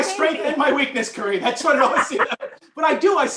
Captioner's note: laughter